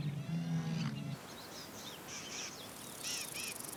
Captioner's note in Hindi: चहचहाहट